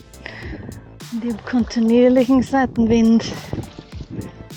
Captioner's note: wind